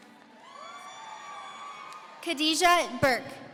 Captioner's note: audience cheering